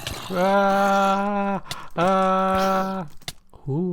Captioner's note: screaming noises